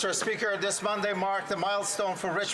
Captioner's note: some Applause